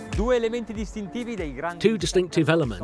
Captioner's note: speaking in foreign language